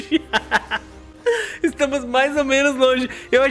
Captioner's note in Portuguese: risos